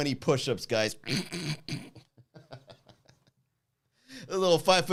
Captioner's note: snorts; laughs